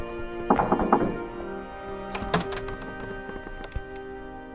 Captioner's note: children knock